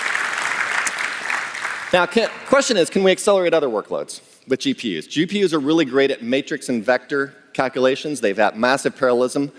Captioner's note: applause